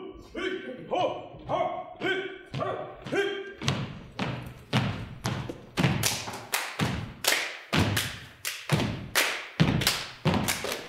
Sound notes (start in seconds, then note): 0.4 chanting; 3.5 all stomping; 5.9 stomping and clapping rhythmically